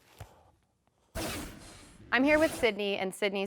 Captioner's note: transition scrapes